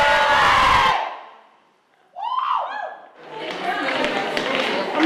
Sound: cheering

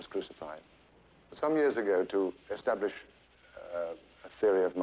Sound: none

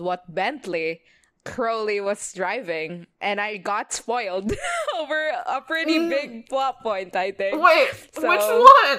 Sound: laughs

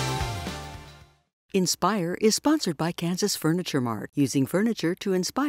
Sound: voiceover

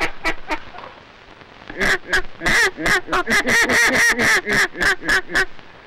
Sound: ducks quacking; duck call

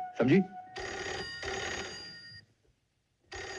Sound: phone Ringing

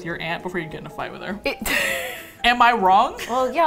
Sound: laughs

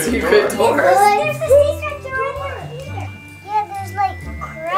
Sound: children clamoring

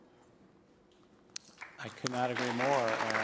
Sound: applause

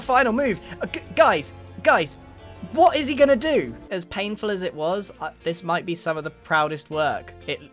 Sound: none

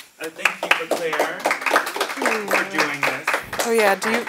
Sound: applause

